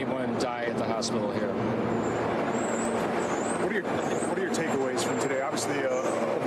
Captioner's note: helicopter